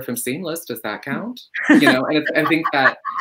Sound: laugh

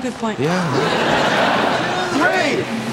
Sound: audience laughing

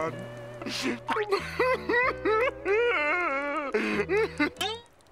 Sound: crying

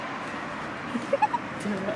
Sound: giggles

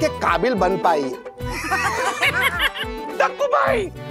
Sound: laughing

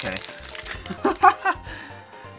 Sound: laughs

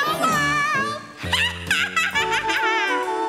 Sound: cackles; light, playful music

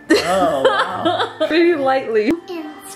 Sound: laughing

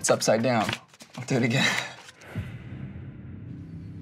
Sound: laughs; suspenseful music

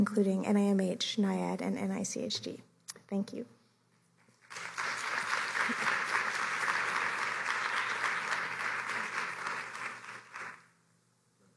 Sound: applause

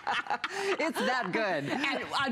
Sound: laughter

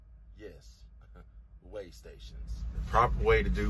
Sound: chuckles

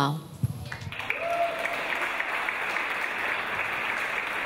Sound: audience applause

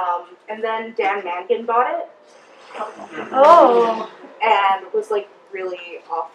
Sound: audience member: ooh

